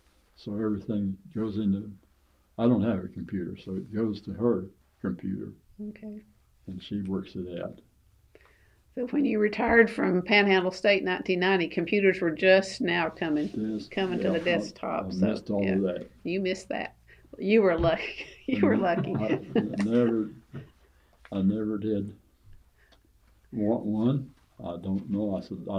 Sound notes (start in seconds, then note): 17.8 laughs